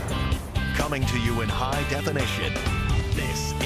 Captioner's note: rock music; voiceover